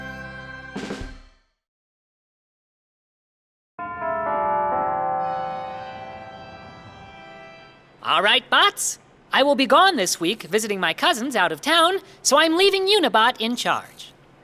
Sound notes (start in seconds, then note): 3.8 bells